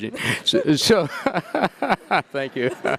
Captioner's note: laughing